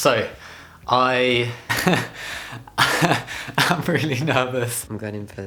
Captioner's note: much nervous laughter